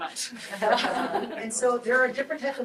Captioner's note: group laughs